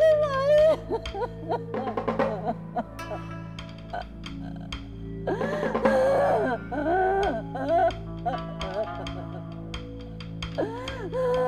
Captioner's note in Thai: เสียงร้องไห้